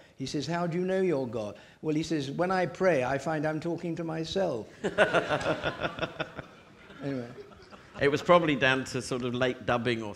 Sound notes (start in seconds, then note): 4.8 audience laughing